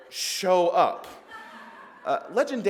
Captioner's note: crowd laughs